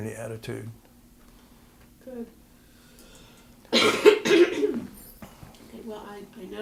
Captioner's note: cough